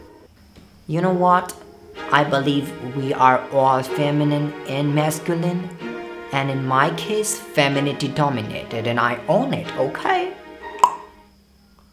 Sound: tongue pop

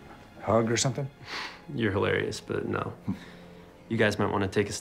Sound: chuckles lightly

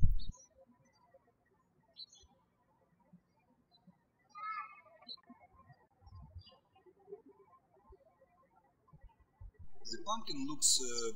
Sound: birds chirping

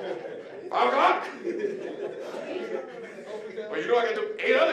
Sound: audience laughing

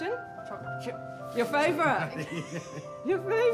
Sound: laughs

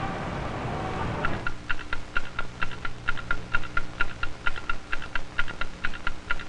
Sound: clock ticking

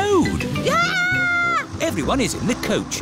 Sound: shrieks

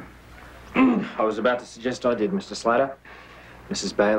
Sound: clears throat

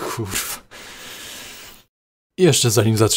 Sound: inhale

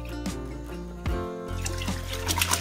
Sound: boiling water

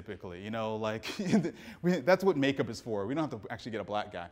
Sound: laughs

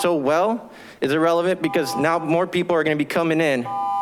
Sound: continuous beeping

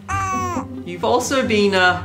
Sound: cooing

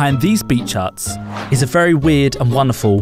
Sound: whoosh

